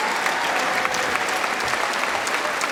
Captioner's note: cheering & Applause